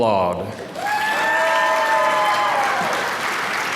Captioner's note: applause